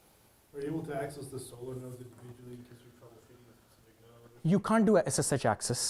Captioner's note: man speaking faintly off microphone